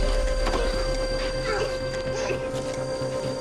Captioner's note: coughing